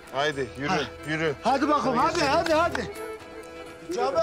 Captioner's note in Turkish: Ellerini Çırpıyor